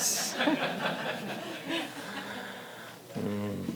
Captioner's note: audience laughs